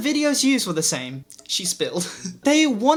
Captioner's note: laugh